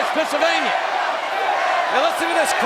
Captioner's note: crowd chanting "Sable!"